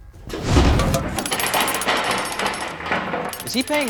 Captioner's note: vanishing sound effect